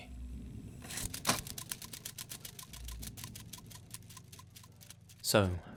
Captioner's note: sound of film reel stopping and spinning